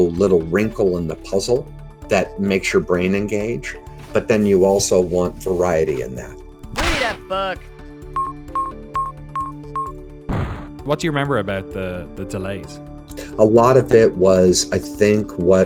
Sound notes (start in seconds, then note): 8.1 timer beeping; 10.3 bomb exploding